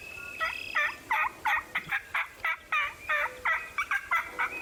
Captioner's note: turkeys gobbling